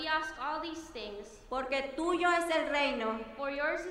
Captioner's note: speaking in foreign language